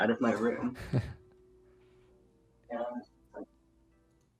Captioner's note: chuckles